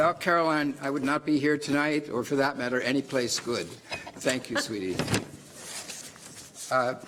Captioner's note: laughter